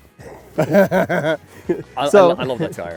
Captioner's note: both laughing